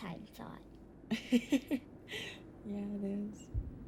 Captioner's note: laughs